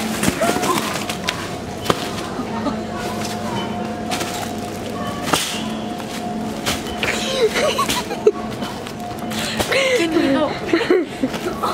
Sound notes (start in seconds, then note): 2.5 laughing; 7.2 laughing